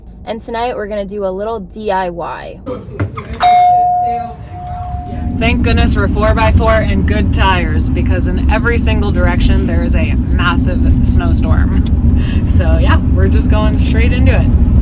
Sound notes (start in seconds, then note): 3.3 bell dinging